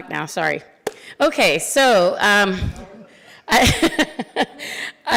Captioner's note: laughs